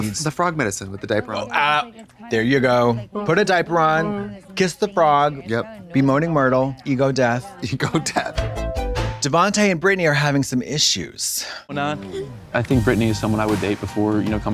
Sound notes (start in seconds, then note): 4.0 Trixie moans; 8.2 synth bop